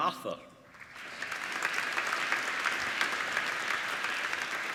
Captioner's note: applauding